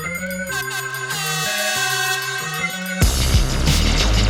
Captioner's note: energetic dubstep music; airhorn blaring; energetic dubstep music continues